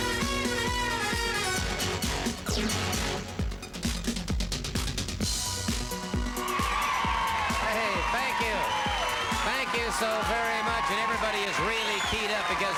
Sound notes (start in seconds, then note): 0.3 upbeat music continues; 6.1 crowd cheers